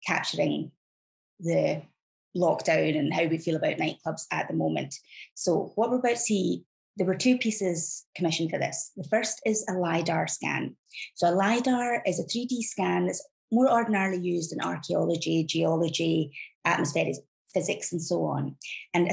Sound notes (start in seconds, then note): none